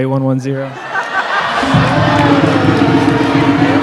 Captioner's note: cheering